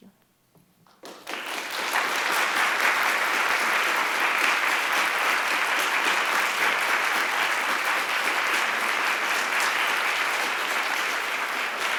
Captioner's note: applause